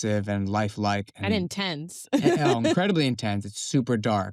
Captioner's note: laughs